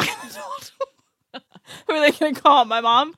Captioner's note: laugh